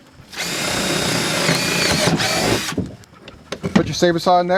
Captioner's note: drill drilling